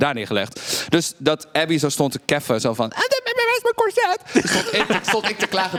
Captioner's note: In ABBY VOICE